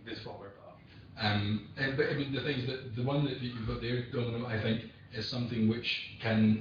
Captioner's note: audio distorts